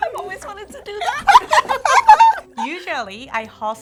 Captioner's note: both laugh